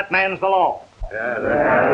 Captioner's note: crowd murmuring assent